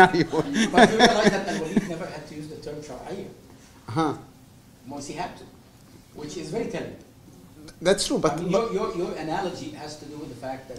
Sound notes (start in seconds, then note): 3.4 non-english